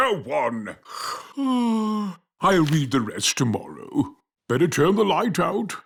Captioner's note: yawns